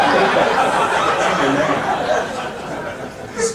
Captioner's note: audience laughing